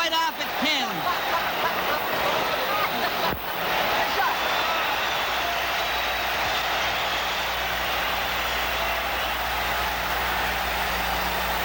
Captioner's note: laughs